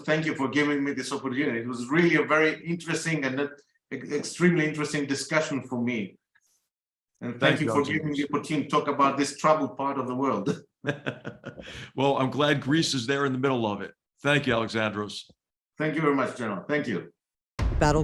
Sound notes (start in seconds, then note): 10.8 laugh